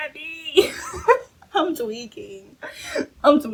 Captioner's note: laughs